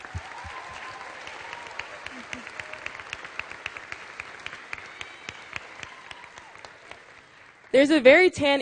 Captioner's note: applause